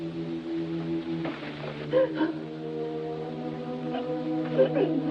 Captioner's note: sobbing